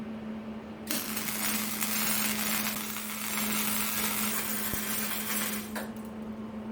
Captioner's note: welding sound